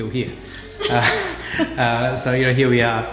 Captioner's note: chuckles